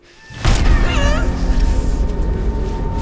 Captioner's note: gasps